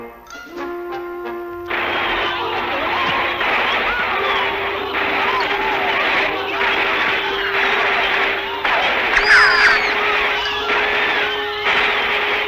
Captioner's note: guns Fires